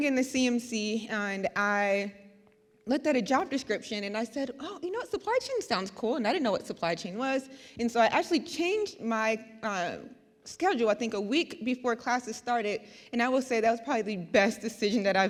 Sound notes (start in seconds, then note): none